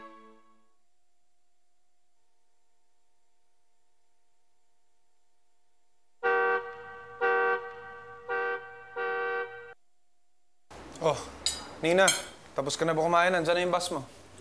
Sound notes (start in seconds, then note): 6.2 bus horn honking